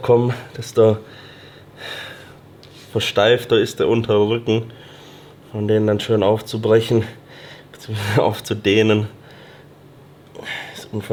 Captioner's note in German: seufzt